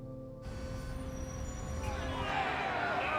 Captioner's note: traffic noises; protesters shouting